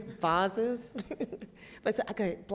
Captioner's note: chuckles